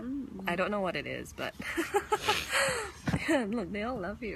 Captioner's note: laughs